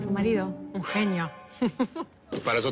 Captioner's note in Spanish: Risas